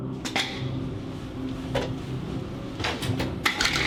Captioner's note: doors clacking